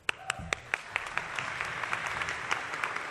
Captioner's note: applause